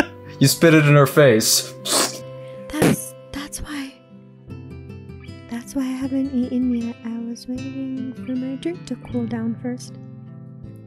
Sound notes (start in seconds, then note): 0.0 chuckles; 2.5 snicker